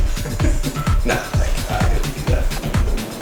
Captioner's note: laughs